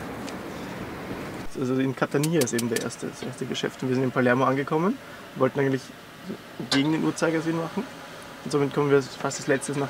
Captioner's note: talking about the last days in German